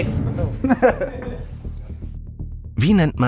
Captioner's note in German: Lachen, Ticken